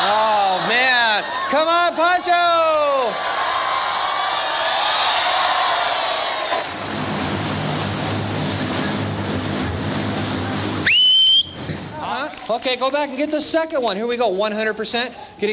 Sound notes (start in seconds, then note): 3.5 audience cheering; 7.5 fan noise; 10.8 whistle